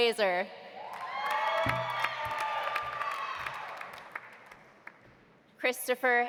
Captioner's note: audience cheering; audience applauding